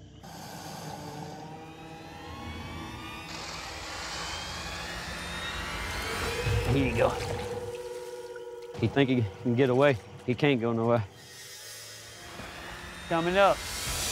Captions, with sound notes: [hisissing] [grorowling] Here youou go. He thihink he cacan get awaw. He canan't go nonowhere. Comingng up.